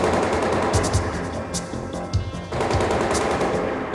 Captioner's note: gun firing